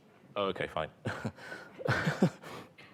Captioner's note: chuckles